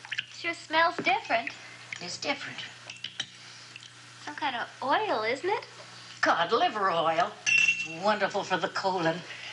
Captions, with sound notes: - It sure smells different. - It's different. - Some kind of oil, isn't it? - Cod liver oil. (utensil clanking) Wonderful for the colon.